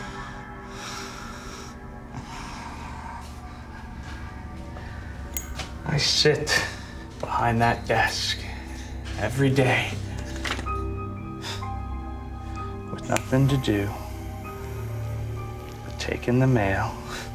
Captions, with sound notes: I sit behind that desk every day. (SCOFFS) With nothing to do but take in the mail. (SCOFFS)